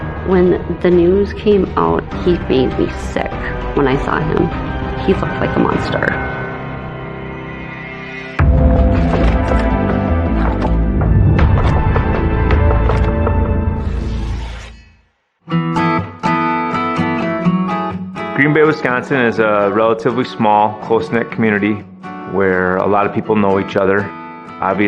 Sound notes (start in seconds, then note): 8.4 mysterious music; 13.7 blade scrapes; 15.6 upbeat acoustic guitar music